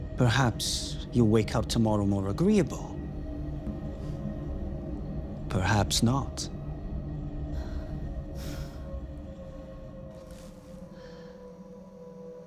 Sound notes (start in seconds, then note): 7.4 Sarah breathing heavily